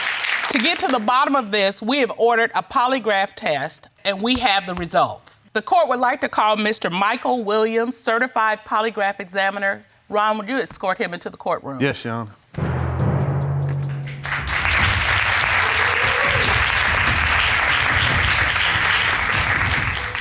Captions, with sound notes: To get to the bottom of this, we have ordered a polygraph test. And we have the results. The court would like to call Mr. Michael Williams, certified polygraph examiner. Ron, would you escort him into the courtroom? Yes, your Honor. [AUDIENCE APPLAUDING]